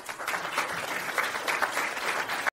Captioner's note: audience applauding